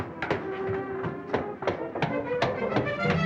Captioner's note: footsteps approaching